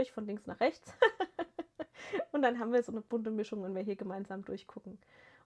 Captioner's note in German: gelächter